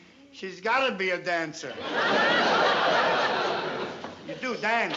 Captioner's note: laughter